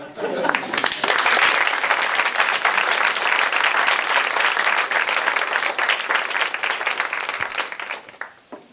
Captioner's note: applause